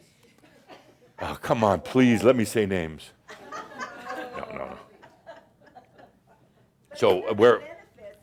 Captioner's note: laughter